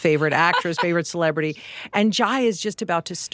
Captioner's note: Laura laughing